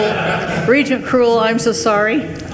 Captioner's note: group laughs